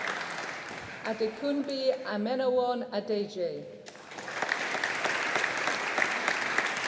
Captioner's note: audience applauding